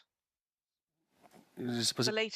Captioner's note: speaking French